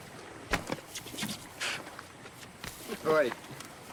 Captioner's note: kissing sounds